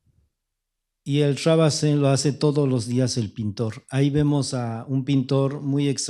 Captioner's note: speaking spanish